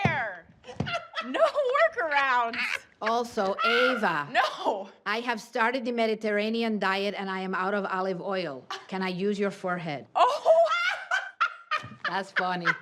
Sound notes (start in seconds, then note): 0.6 laughs; 10.2 laughs